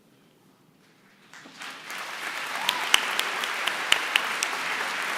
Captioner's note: applause